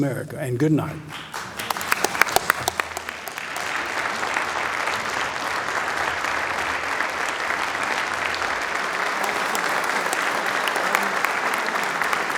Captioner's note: applause